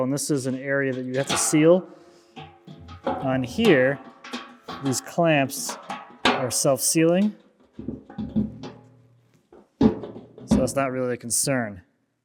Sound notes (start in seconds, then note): 7.0 plastic cyclone clanking